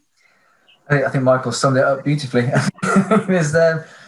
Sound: chuckles

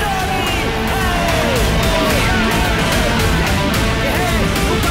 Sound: crowd Cheering

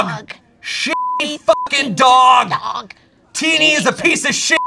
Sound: beep; beep

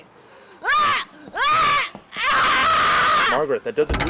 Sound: combat yelling

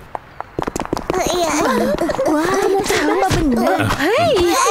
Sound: gasps

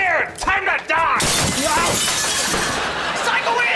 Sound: shattering

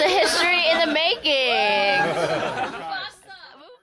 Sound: cheering and laughing

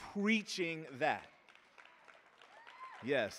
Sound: audience applauding

